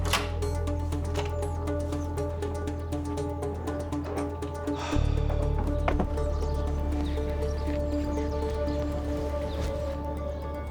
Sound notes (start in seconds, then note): 4.7 sighs